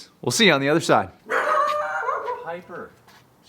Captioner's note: Piper barking